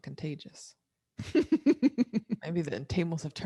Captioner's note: both laugh